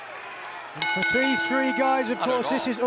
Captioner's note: bell ringing